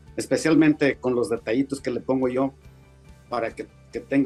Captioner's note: speaking Spanish